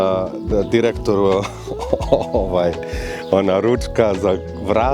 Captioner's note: laughs